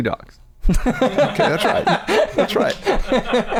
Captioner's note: laughter